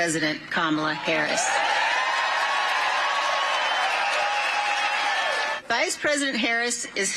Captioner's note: cheers